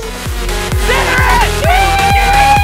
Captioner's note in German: schreie